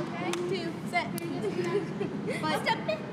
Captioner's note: laughs